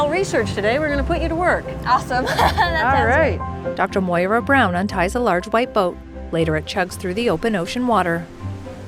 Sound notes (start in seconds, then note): 2.2 laughs